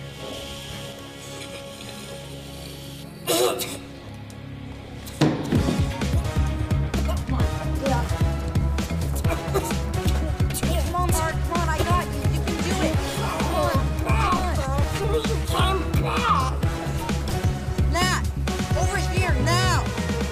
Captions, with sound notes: [air hissing] - [coughs] - COME ON. LET'S GET OUT OF HERE. COME ON, BART. COME ON, I GOT YOU. YOU CAN DO IT. COME ON. COME ON. - COME BACK. - NAT, OVER HERE NOW.